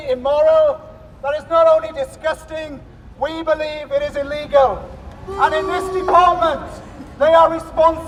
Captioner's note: boos